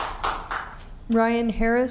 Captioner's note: applause